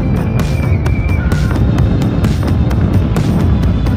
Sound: riders screaming

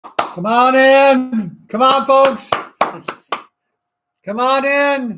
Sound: claps

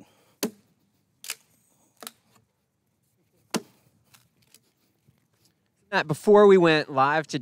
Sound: ax thumps wood; wood cracks

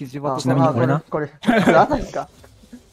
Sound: laughs

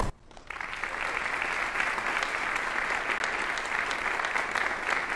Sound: audience applauding

